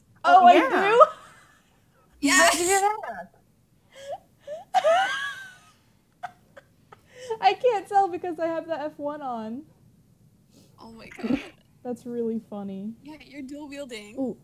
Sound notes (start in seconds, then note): 0.4 laughing; 4.5 laughs